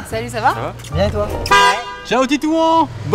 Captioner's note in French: Klaxon